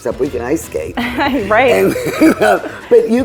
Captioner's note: woman chuckles